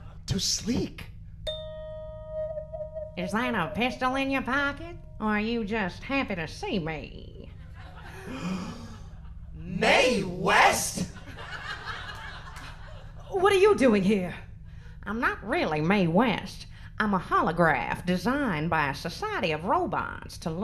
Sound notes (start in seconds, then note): 1.4 mystical chiming; 8.0 gasping